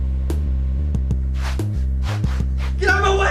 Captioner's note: fighting and scuffling